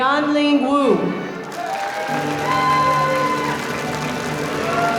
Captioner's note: audience applauding